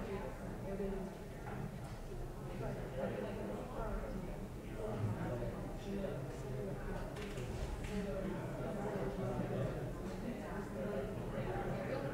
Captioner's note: room chatter